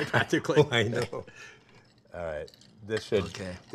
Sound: laughing

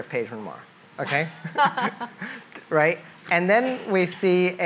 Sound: laughs

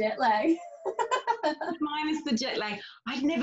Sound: laughs

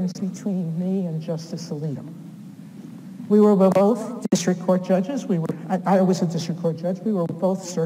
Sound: none

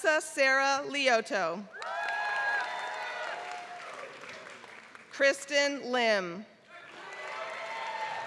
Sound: applause; applause

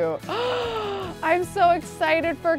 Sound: gasps

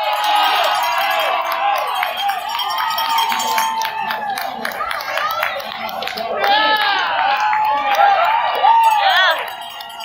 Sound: bell ringing, crowd cheering, PA Announcer speaking unintelligibly

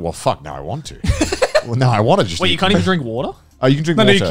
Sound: laughing

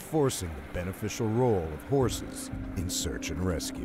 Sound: voiceover

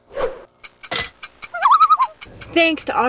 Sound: loon call

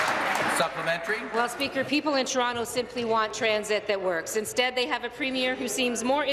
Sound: applause

